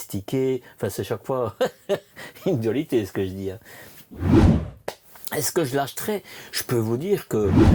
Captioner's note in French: rires